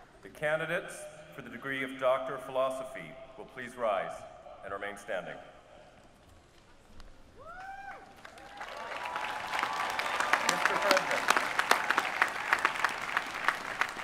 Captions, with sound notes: The candidates for the degree of Doctor of Philosophy will please rise and remain standing. [APPLAUSE]